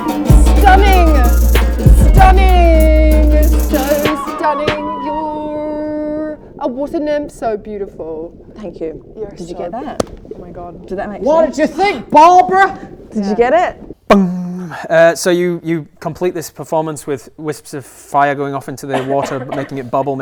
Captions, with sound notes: Stunning Stunning! So stunning You're a water nymph, so beautiful Thank you Did you get that? Oh, my God Did that make sense? What'd you think, Barbara? Did you get it? *bong* So you complete this performance with wisps of fire going off into the water making it bubble